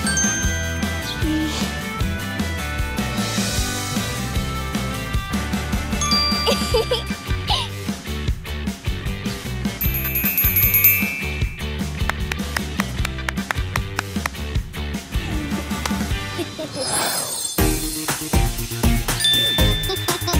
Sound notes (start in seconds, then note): 0.0 bell rings; 9.8 bell ringing; 9.9 girl claps; 16.3 girls laugh; 17.3 bright, upbeat music